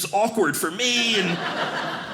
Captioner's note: audience laughing